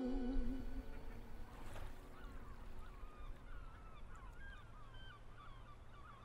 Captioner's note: waves lapping; gulls squawking